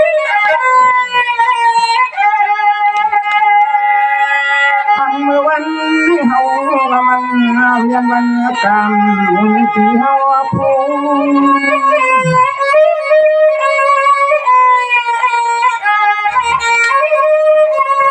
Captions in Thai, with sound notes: ันเมื่อวันนี้เฮามันเนวกี [ปรบมือ]